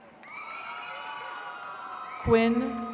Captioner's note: attendees cheering